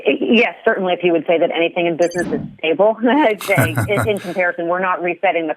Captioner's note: laughs